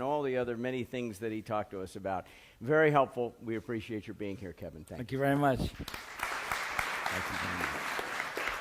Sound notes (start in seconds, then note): 5.7 applause